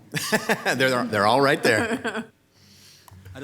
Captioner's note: laughs